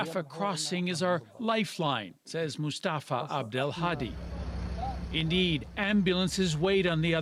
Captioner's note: speaking alternate language